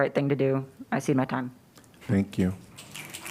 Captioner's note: applause